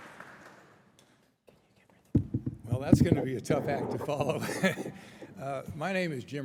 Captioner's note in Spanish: Aplausos